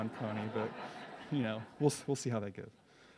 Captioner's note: audience laughs